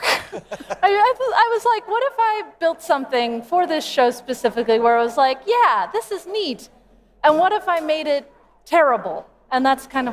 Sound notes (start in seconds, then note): 0.0 laughter